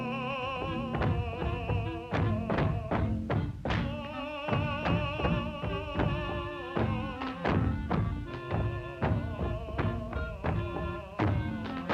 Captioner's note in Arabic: غناء وموسيقى الجيتار; أقدام تدوس من أعلى; تعزف الكلارينيت